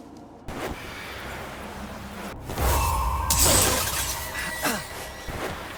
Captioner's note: glass shattering